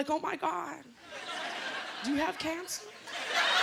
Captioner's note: laughter